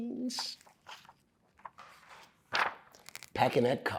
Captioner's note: pages rustling